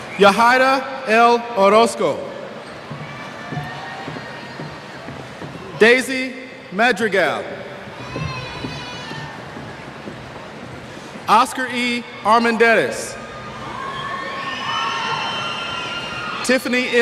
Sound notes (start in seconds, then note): 7.5 cheers